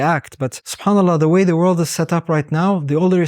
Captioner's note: speaks Arabic